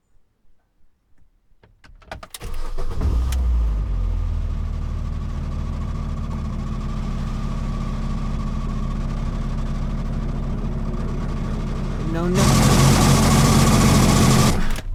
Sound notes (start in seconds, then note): 2.2 turns key again, car fires into life; 7.5 a horrible rattling sound creeps in ominously; 12.0 awful grinding sounds